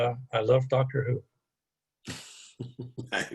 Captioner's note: laughter